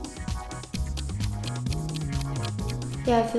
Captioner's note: clock ticking